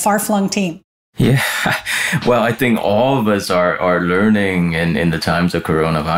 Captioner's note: chuckles